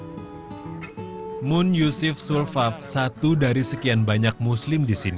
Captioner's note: non-english speech